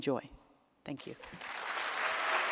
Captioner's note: applause